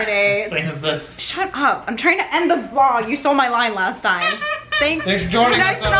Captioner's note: toy squeaks